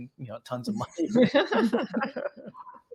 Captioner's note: laughs